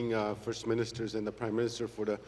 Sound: remarks in Oji-Cree

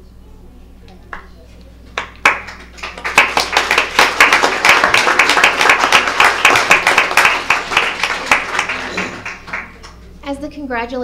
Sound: applause

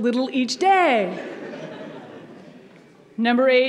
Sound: audience laughs

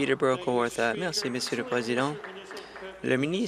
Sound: applause

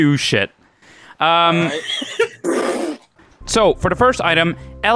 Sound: laughs

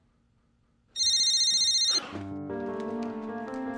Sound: phone rings

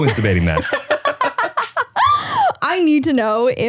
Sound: laugh

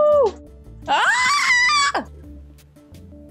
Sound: screams

